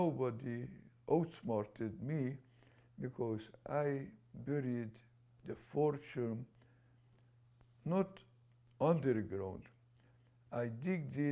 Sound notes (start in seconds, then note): none